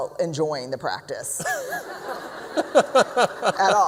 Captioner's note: laughter